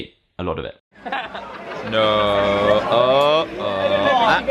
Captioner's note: laugh